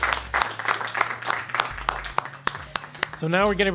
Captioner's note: applause